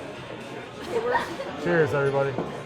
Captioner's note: laughs